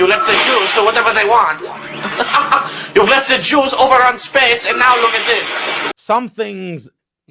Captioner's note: giggle